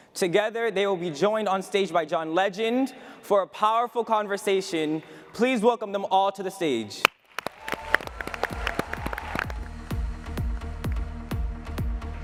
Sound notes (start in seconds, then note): 7.4 audience cheering; 9.6 upbeat music